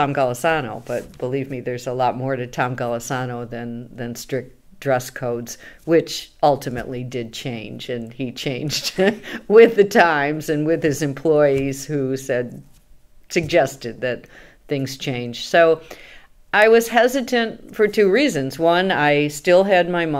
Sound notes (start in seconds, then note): 8.8 laughs